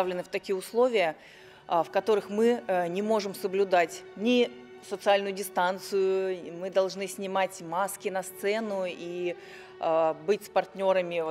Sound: speaking Russian

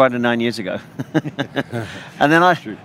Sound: laughing

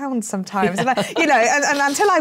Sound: laughs

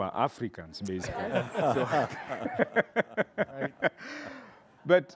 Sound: audience laughing

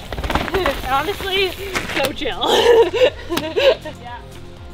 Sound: laughs

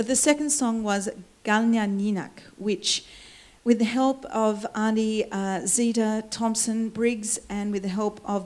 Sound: foreign words

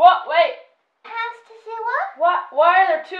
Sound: babbling

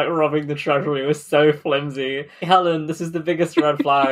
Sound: laughing

